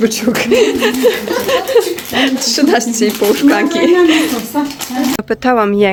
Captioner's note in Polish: śmiech